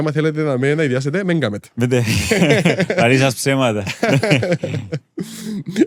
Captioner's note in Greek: γέλια